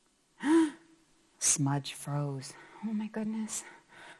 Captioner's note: gasps